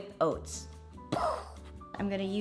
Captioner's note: imitates explosion